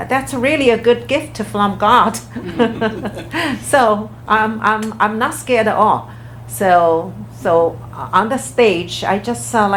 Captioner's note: everyone laughs